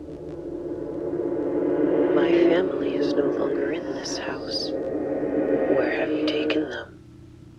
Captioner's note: whispering